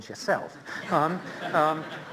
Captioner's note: laughter